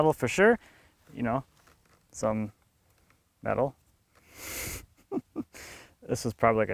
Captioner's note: laughs